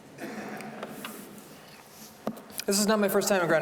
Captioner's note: audience chuckling